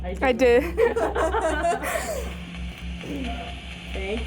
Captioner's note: group laughing